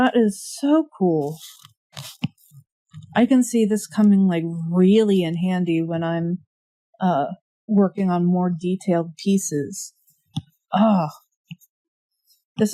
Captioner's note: drawing noises